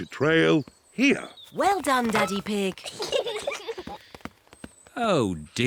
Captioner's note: peppa and george giggle